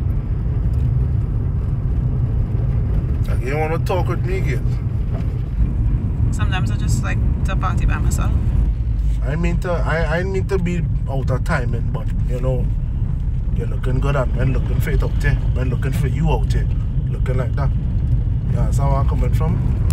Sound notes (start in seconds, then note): none